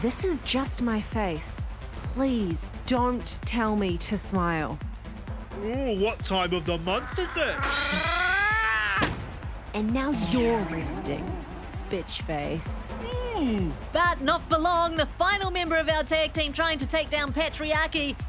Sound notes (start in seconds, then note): 9.0 punching sound